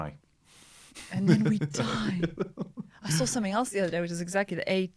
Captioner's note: laughter